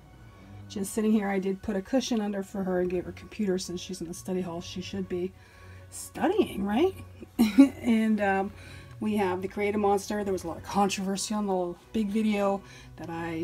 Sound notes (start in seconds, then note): 7.3 laughs